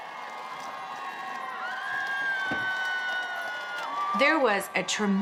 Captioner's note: crowds cheering